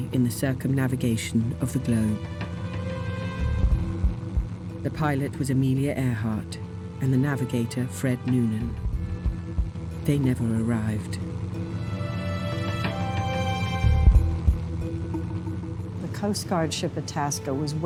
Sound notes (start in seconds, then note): 3.1 plane propeller whirring; 4.2 ominous music; 12.2 plane propeller whirring; 14.3 ominous music